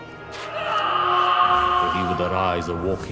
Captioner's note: echoed Ghostly Screaming